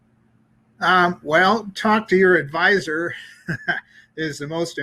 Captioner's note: laughs